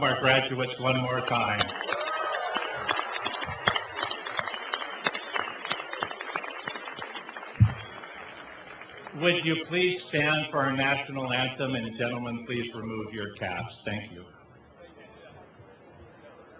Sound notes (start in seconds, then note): 2.3 cheering and applause